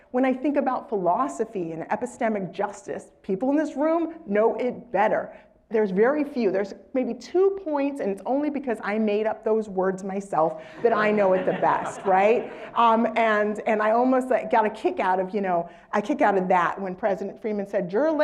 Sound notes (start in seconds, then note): 10.7 laugh